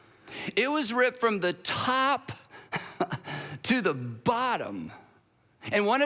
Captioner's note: chuckles